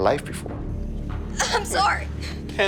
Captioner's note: crying